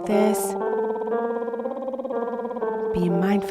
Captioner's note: piano scales continue; lips trilling